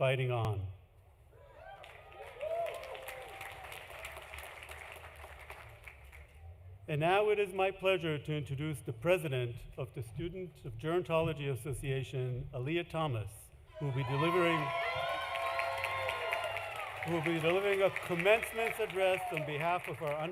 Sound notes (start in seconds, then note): 1.7 applause; 3.1 cheering